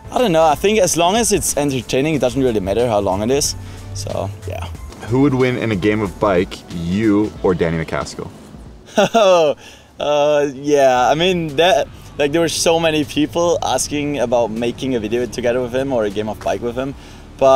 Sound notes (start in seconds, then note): 8.8 laughs